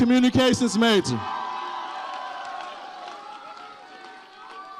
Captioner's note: audience cheers